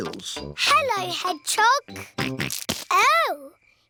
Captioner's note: snorts